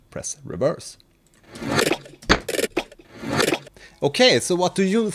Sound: reversed audio playing

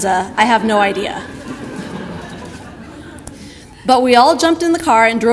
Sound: audience laughter

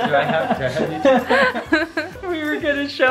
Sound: laughing

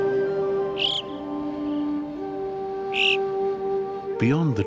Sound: bird chirps

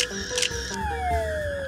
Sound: camera shutter snapping

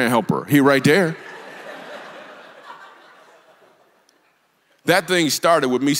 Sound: congregation laughs

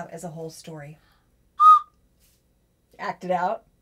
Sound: coo-coo whistle plays

